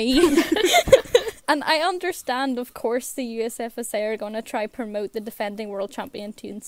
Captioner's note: hosts laugh